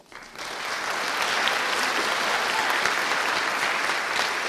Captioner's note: audience applauding